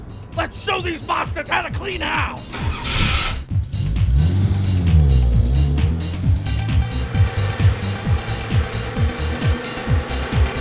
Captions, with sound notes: Let's show these mopsters how to clean house! ( Engine starting ) ( Engine revving music pumping )